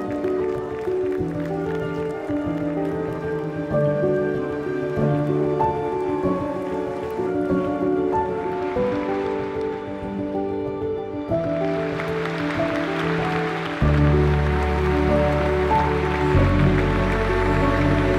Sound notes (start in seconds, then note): 12.2 audience applauding